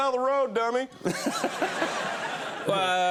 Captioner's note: audience laughing